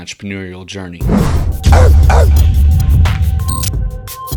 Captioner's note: barking; upbeat electronic music